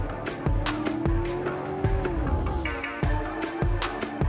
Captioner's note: car engine roaring